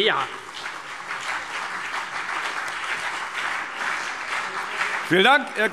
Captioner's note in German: Beifall CDU und BÜNDNIS 90/DIE GRÜNEN